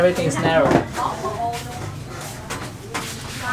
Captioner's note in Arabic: الثرثرة الخلفية